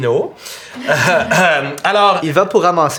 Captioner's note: small chuckle